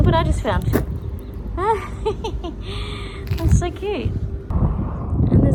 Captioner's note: giggles